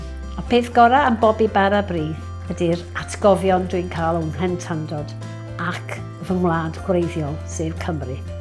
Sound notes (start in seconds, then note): 0.8 speaking in foreign language